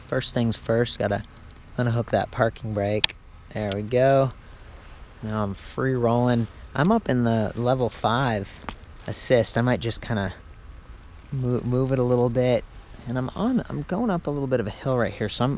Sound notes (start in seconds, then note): 3.6 clicking noise